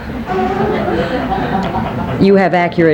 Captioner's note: people laughing